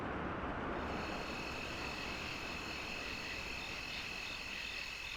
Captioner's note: insects chirping